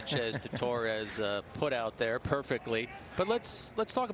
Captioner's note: laughter